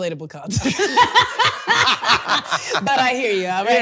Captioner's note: both laughing